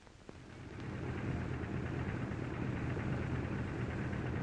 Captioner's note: plane rumbling